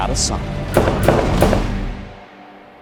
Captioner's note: gunshots